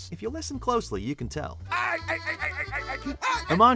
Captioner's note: laughing